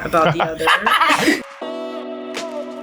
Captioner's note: laughs; fierce music